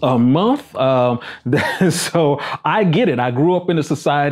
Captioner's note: laughs